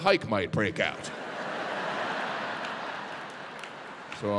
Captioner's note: audience laughing